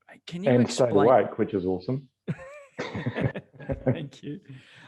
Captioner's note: laughs